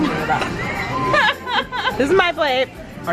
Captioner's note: laughing